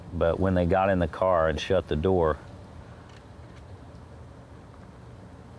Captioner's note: none